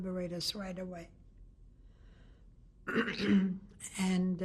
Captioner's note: pauses for 3 seconds